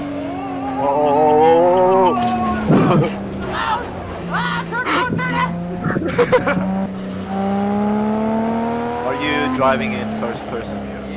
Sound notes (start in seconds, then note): 3.6 goofy chuckle; 4.3 laugh